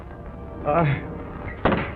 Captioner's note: groans; door rattles